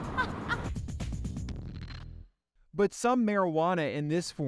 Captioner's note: woman laughing